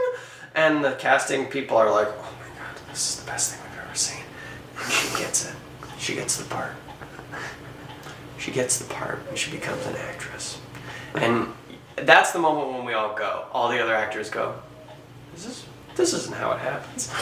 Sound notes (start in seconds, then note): 0.0 in hellish falsetto; 1.7 whispers; 4.6 still whispering